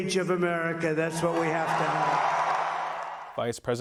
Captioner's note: applause